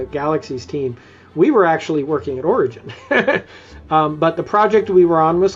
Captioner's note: laughs